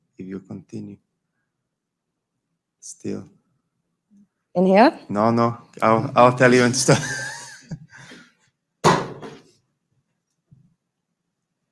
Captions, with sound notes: If you continue still. In here? No, no. I'll tell you... (chuckles) (object clunks)